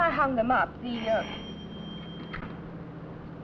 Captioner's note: phone rings